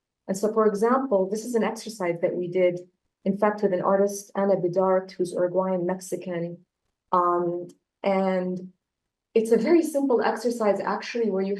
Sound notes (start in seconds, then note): none